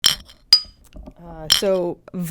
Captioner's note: bottle Clinking